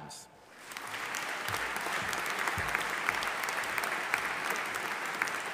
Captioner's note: audience applauding